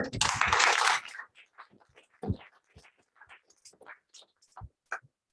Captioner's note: applause